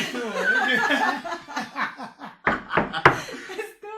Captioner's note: laughter